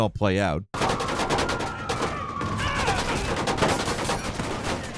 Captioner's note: guns firing